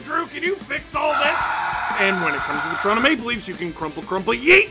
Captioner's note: screaming